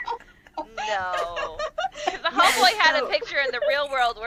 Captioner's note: laughter